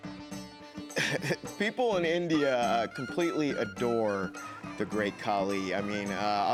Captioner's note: laugh